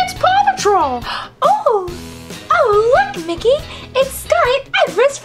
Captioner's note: gasps